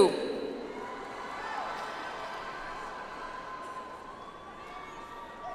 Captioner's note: audience applauds